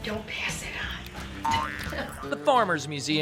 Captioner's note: cook laughs